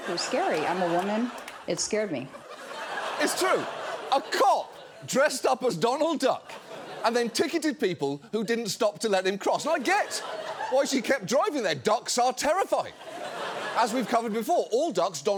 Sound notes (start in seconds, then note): 2.7 audience laughs; 12.9 audience laughs